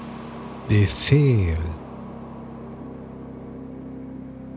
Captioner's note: german